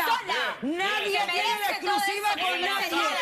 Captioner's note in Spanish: HABLAN AL UNíSONO, Y A GRITOS